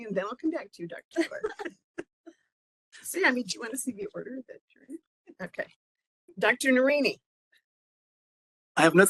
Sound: laughing

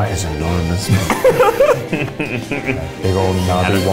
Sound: laughs

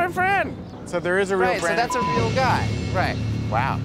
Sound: beep

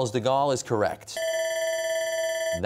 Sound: bell ringing

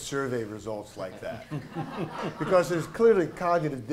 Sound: laughter

